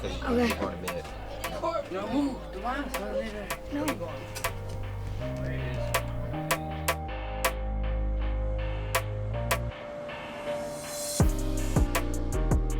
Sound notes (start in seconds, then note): 2.2 calming music; 2.2 chattering